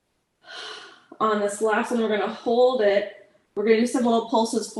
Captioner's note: exhales